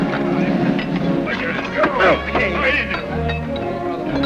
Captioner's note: men chattering